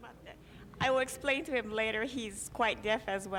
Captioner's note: speaking Japanese